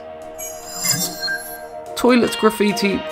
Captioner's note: sharp chiming